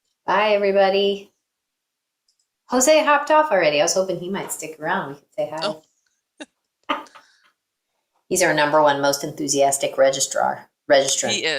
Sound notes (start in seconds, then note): 6.4 both laughing